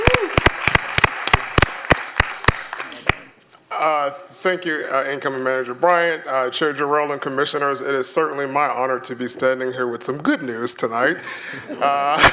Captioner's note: applause